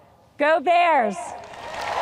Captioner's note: audience cheers